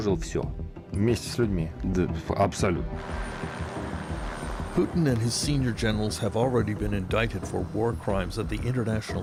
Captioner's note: speaking Alternate Language